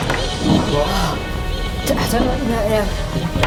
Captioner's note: gasps